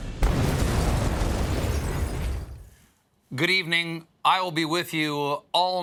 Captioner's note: explosion